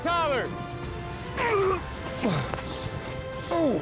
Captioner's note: grunting